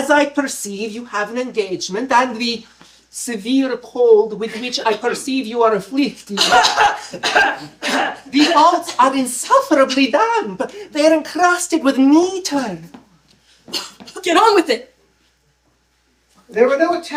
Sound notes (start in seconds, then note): 6.3 loud coughing